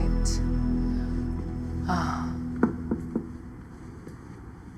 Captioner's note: sighs